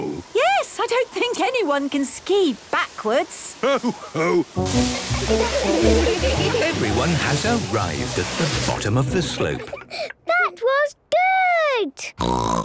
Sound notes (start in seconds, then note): 4.9 laughter; 11.5 snorting